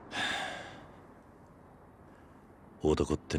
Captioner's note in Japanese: ため息; 息をのむ音